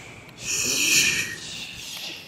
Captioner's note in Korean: 입에서 나는 소리